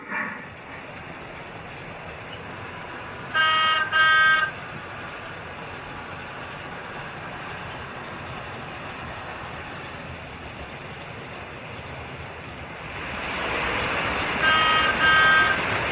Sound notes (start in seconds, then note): 1.0 wheels clatter; 3.3 horn beeps